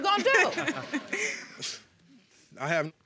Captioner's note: chuckling